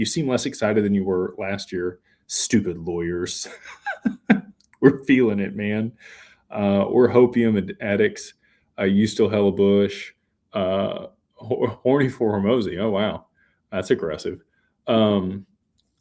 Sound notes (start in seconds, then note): 3.4 laughter